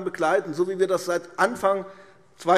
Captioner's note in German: none